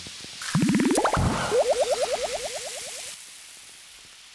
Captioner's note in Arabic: إنها نبضات قلب